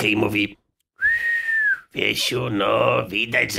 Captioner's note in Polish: gwizd